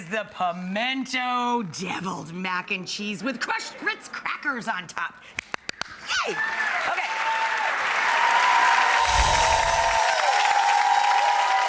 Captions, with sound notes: the Pimento deviled mac and cheese with crushed Ritz Crackers on top. (clapping) Yay! Okay. (audience cheering) (chimes tinkling)